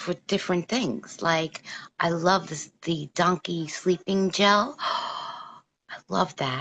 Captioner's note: gasp